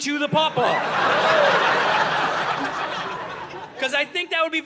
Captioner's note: audience laughing